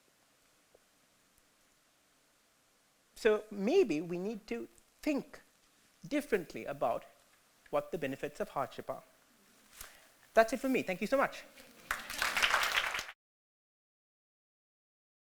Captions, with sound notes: So maybe we need to think differently about what the benefits of hardship are. That's it from me, thank you so much. [Applaud]